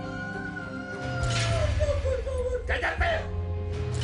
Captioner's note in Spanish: Sollozos; Gritos